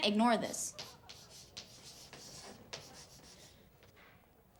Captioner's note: chalk clicking